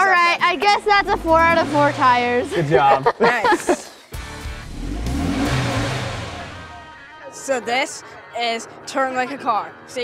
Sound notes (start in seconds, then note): 2.5 laughing; 4.1 car engine revving